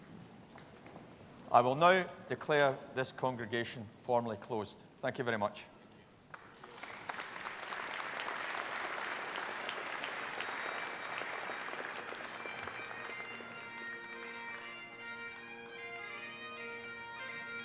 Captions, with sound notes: I will now declare this congregation formally closed. Thank you very much. (APPLAUSE) (BAGPIPES PLAY)